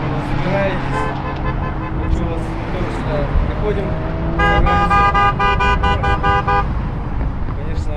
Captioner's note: supporting honks